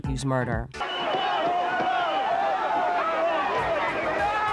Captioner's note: crowd chatters